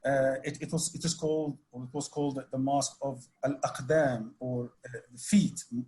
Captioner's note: speaks Arabic